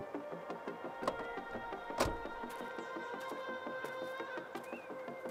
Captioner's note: car door closes